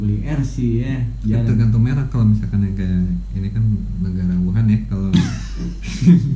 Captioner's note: chuckles